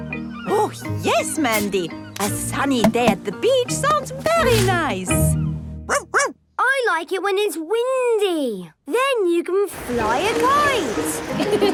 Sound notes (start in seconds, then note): 5.8 barking; 10.8 laughing